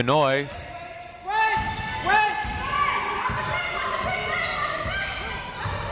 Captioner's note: crowd members shouting